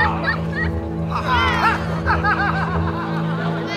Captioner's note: laughter